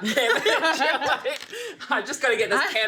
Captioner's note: laughs